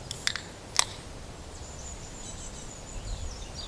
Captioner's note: the sound of opening a beer can